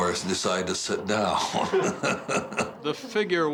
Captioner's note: laughs